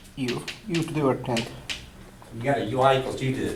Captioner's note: voiceover